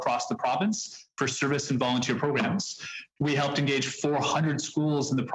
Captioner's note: speaking French